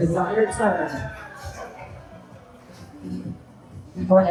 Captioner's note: audience laughing